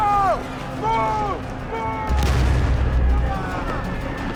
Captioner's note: bombs exploding; gunfire; shouting